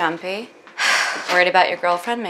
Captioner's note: Laura sighs